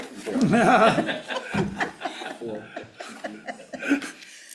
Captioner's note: everyone laughs